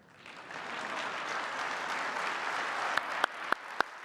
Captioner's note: applause